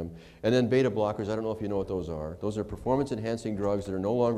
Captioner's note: none